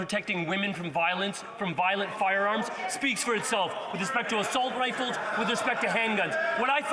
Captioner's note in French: voix de l'interprète